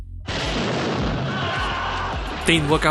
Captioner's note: bang